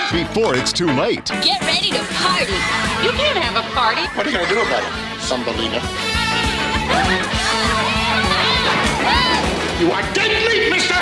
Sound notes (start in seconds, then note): 6.2 shouting,Hooting